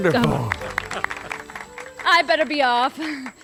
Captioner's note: crowd applauds the puppets as they leave